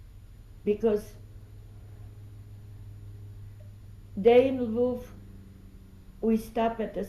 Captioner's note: pauses for 3 seconds